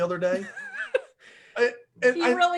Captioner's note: laughs